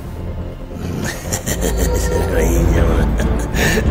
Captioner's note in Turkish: Kahkaha atar